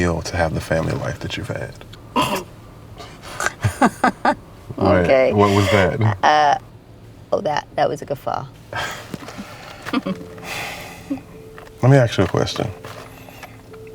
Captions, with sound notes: to have the family life that you've had. - (laughs) Okay. - Wait, what was that? - Uh, oh that, that was a guffaw. - Let me ask you a question.